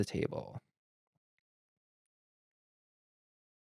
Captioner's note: silence